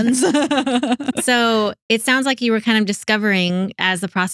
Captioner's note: laughing